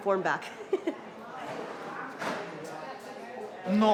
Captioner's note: laughs